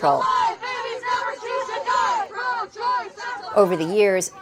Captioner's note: chanting